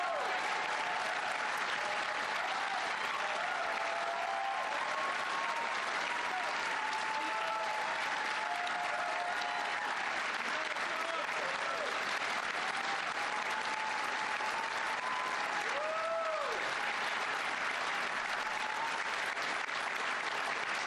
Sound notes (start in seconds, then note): 4.5 applause